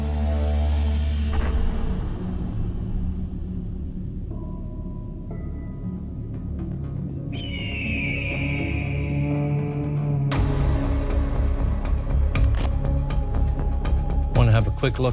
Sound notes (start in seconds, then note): 0.6 melancholy music playing; 7.3 eagle screeching; 9.7 suspenseful music playing